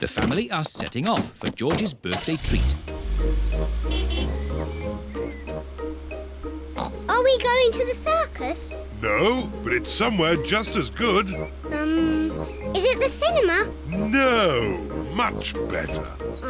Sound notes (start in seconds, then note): 2.4 horn honks; 6.7 oinks